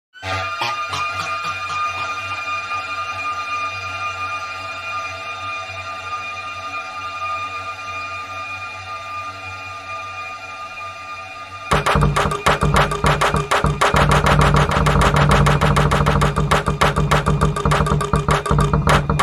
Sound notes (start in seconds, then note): 0.2 a spike of bass clarinet-like sound; 3.4 very reverberated; 6.4 leaving a long tail of sound